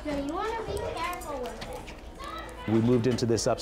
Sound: kids chattering

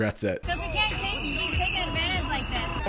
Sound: whistles blowing

